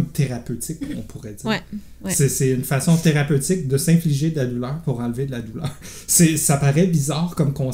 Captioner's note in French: rires